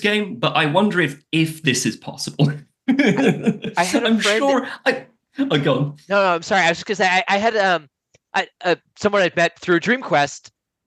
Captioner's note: laughs